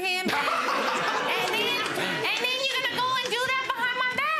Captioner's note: audience laughs